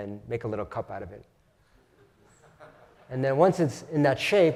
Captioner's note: laugh